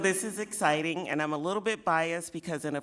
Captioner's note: laughing